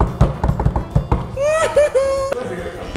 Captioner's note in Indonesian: lanjut evil laugh